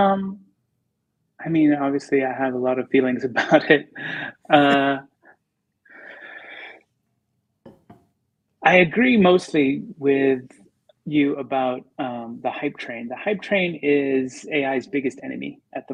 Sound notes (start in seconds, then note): 4.9 laughter